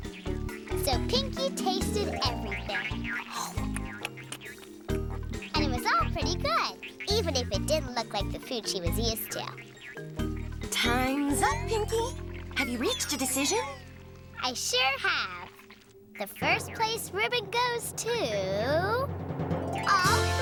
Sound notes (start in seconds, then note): 3.2 chomping